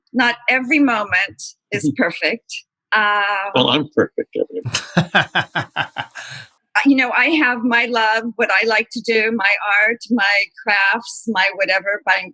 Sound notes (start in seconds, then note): 4.6 laughter